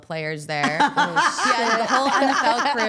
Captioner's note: laughs